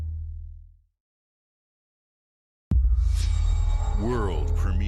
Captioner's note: transition sound